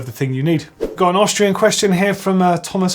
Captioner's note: swoosh